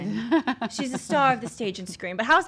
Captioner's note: laughs